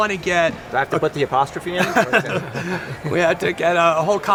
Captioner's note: laughing